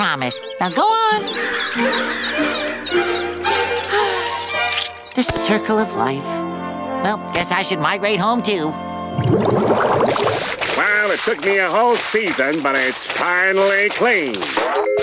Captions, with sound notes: But go on. [squawking] [sighing] The circle of life. Well, I guess I should migrate home too. Well, it took me a whole season, but it's finally clean.